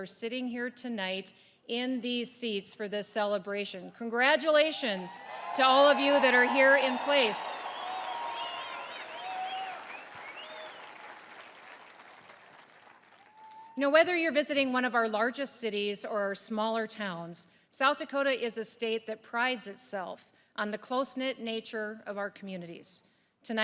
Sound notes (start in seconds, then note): 7.6 applause